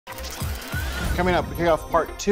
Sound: clicking gears

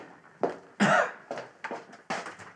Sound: coughs

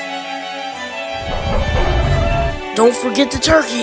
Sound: Rodan 2019 chitters

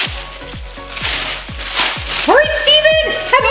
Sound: bubble wrap ripping

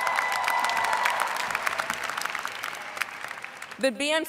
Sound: cheers and applause

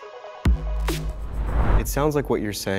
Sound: mellow synth music; air whooshing loudly

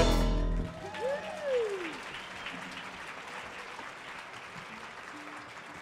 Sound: audience cheers and applauds

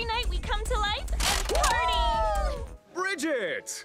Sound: mannequins whoop

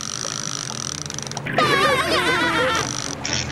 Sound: laughing

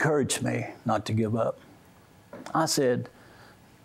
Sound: none

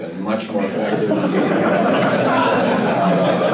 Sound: laughter

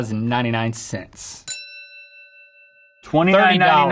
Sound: bell dings

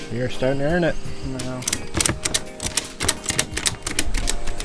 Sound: ratcheting sound

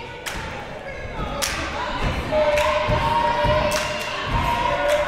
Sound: crowd cheering

